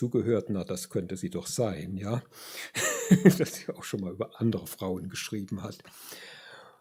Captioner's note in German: gelächter